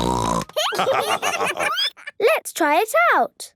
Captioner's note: snorting; laughter